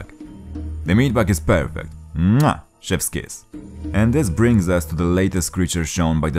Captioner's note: mwah!